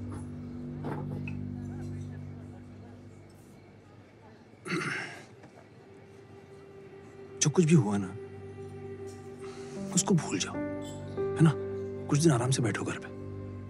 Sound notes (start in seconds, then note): 4.6 Clears throat